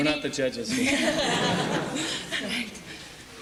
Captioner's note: laughter